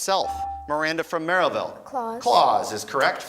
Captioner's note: beeping